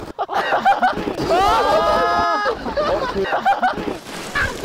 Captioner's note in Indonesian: Semua tertawa